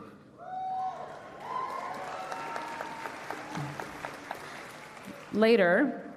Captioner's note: cheering and Applause